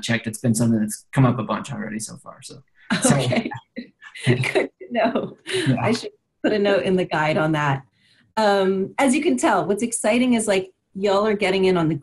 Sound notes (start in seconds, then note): 2.9 laughs